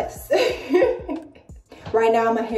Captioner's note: laughs